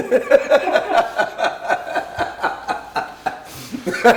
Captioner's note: laughing